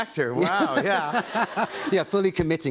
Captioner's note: laughter